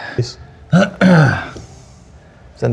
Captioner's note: clears throat